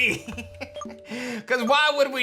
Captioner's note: laughs